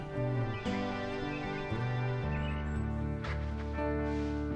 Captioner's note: birds chirping